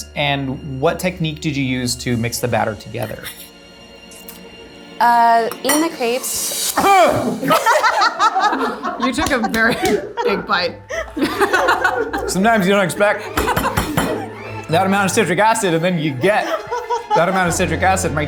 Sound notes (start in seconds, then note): 3.2 tense music; 6.8 exclaiming; 7.5 hand smacking; 7.5 laughing; 11.5 laughs